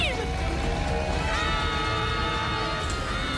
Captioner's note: screaming